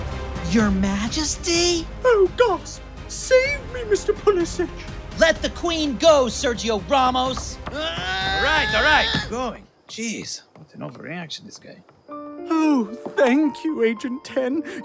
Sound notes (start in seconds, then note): 7.5 shouting